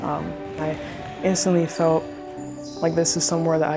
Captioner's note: sneakers squeaking